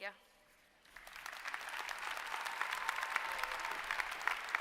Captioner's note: applause